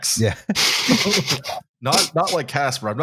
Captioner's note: laughter